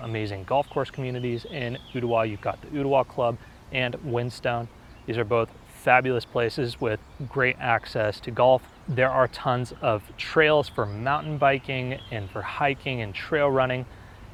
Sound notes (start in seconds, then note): 7.1 birds Chirping